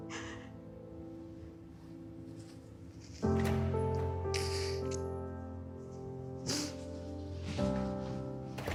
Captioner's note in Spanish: Sollozos